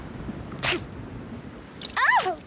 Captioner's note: spits